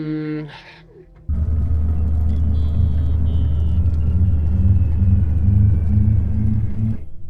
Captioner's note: approaching droning